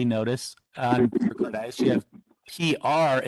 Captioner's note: audio glitch